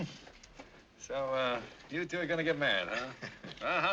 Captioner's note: Bruce chuckles